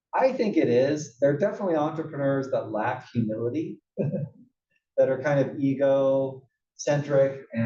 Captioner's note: laugh